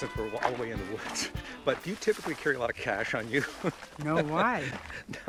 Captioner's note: laughing